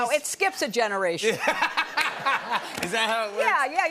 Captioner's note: laughter